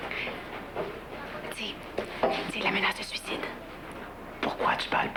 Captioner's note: Chuchotant